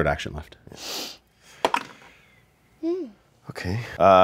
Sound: dice clatter

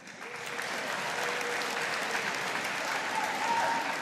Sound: audience applauding

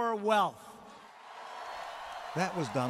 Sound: cheering and applause

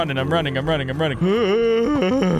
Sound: groans

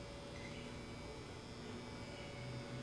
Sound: florescent light buzzing

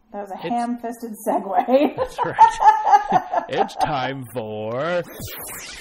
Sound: laugh

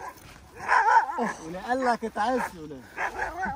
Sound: Arabic

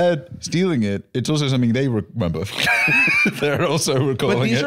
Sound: laughs

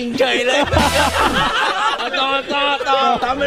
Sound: laughs

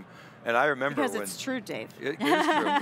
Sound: laughs

